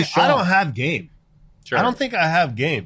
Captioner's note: laughing loudly